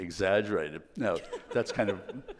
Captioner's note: laughing